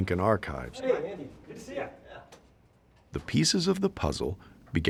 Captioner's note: people greeting each other